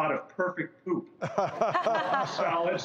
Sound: laughing

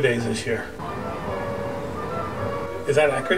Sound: ugggggghhhh

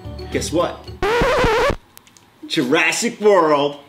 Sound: record scratches sound effect

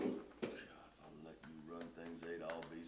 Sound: sighs

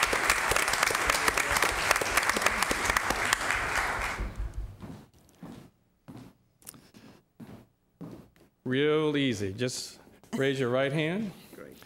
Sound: applause

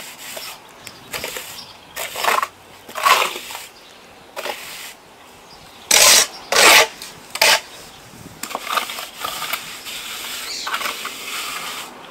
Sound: bird's singing in background

